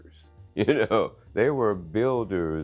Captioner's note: man chuckling